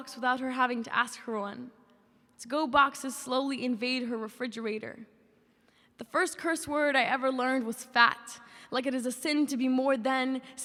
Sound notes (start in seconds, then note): none